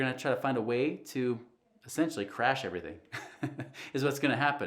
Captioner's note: chuckles